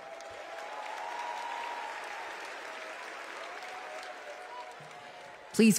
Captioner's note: applause